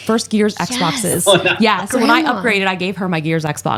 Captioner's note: Phil laughs